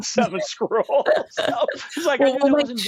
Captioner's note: both laugh